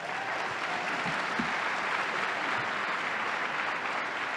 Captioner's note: audience applauding